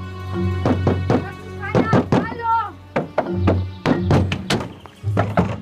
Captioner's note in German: Er klopft an die Scheibe